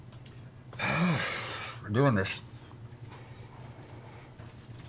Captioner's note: sighs